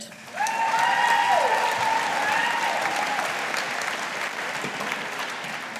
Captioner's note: audience applauding